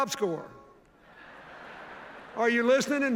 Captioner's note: laughter